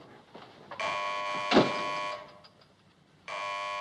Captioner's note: phone buzzing